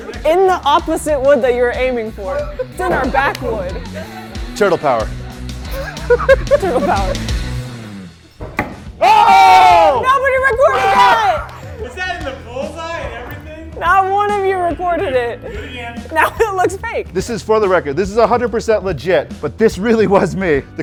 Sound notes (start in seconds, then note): 5.8 laughs; 8.2 star thudding; 9.0 crew shouting